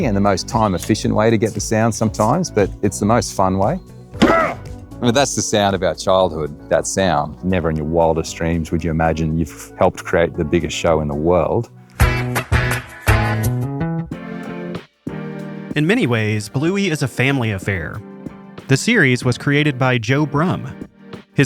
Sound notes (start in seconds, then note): 4.2 grunts; 12.2 upbeat music